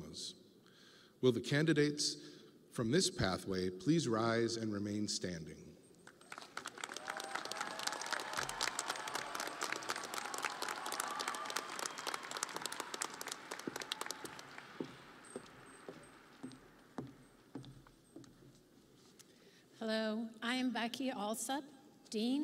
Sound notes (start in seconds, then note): 13.8 audience applauding